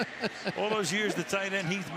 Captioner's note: laughter